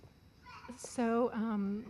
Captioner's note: child yelling